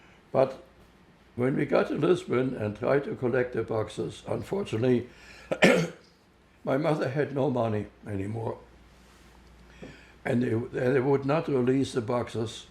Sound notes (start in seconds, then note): 5.4 clears throat